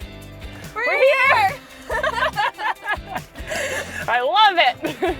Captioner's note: laugh